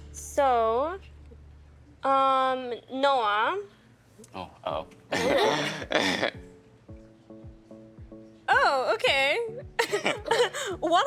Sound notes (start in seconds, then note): 5.1 laughing; 5.2 others laughing; 9.8 laughing